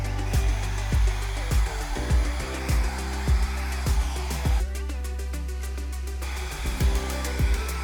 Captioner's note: machine whooshing